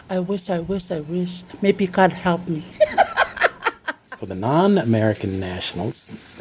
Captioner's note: laughs